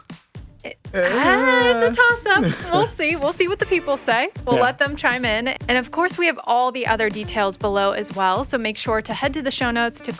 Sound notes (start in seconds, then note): 0.9 chuckling